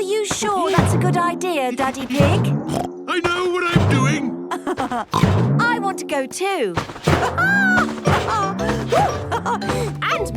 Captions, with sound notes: - Are you sure that's a good idea, Daddy Pig? (snorts) - I know what I'm doing! (laughs) - I want a go too! (laughs)